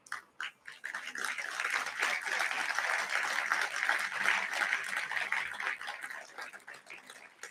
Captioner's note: applause